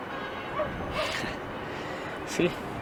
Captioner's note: laughs